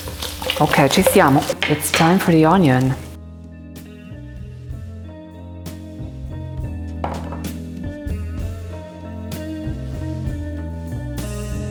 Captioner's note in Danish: taler italiensk